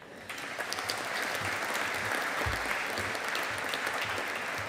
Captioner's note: audience applauding